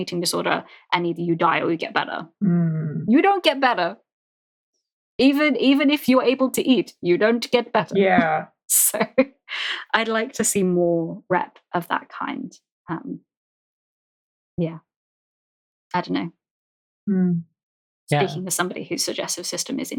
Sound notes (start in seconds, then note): 9.0 lauging